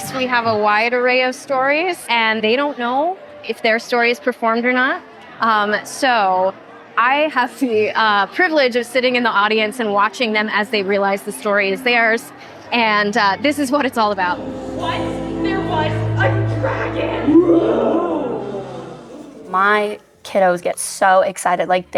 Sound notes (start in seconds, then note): 17.2 roar